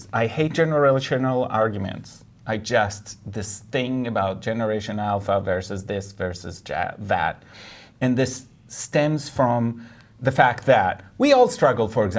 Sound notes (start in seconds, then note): none